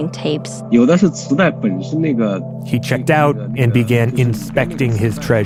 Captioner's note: speaking Mandarin Chinese